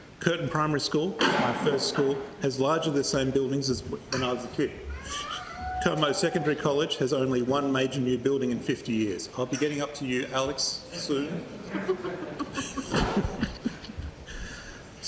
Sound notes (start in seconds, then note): 8.4 child makes noise; 11.5 laughter